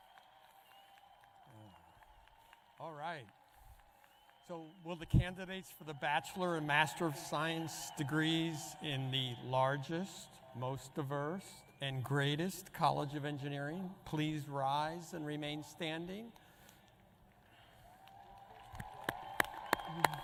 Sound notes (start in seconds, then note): 4.1 applause